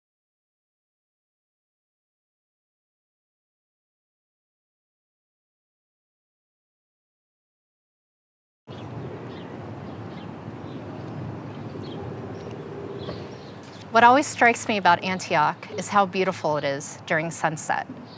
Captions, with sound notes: (birds chirping) - What always strikes me about Antioch is how beautiful it is during sunset.